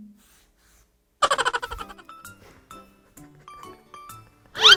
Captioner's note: laughter heard off-screen